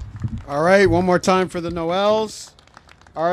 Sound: applause

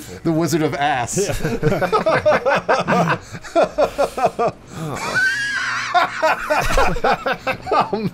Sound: laughter

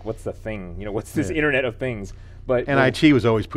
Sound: laughing

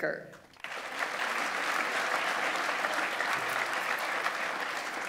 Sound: audience applauds

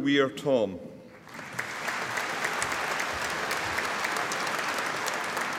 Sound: audience applauding

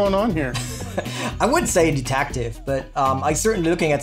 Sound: laughing

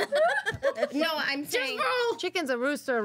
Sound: girls laughing

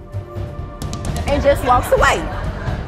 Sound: audience laughing

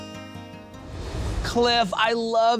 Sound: graphics whoosh

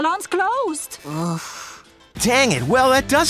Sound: sighing

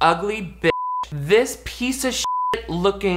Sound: beep

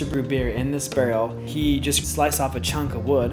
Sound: none

